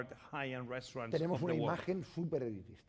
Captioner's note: speaking spanish